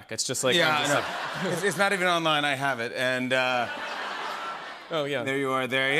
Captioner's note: laughter